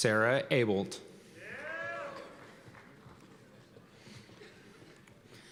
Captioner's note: cheers and applause